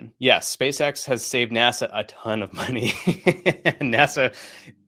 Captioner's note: laughs